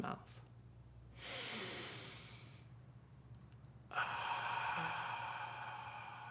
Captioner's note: inhales and exhales